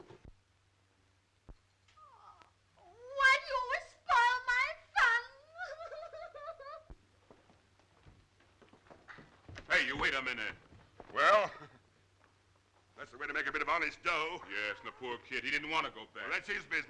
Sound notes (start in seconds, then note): 5.0 crying